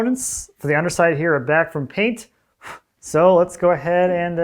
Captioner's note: blows